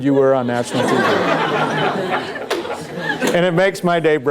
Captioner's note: laughter